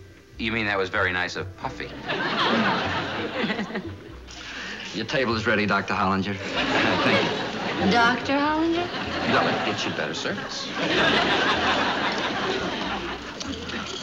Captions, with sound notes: You mean that was very nice of Puffy. (Ann laughs) Your table is ready Dr. Hollinger. All right, thank you. Doctor Hollinger? Well yeah, it gets you better service.